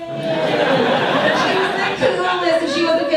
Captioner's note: audience laughs